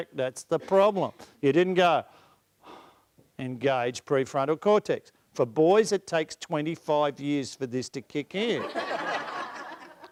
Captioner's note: breathe in